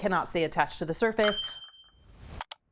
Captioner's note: bell dings